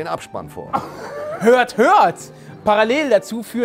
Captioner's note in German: Lachen